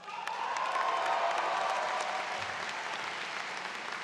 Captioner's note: audience cheers